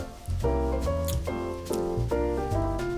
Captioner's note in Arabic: أصوات التقبيل; موسيقى البيانو